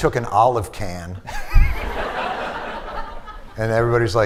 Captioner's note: laughter